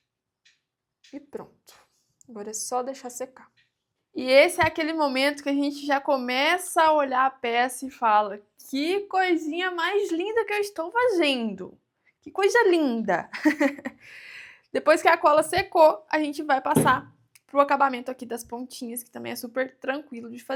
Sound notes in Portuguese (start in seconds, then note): 13.3 risadas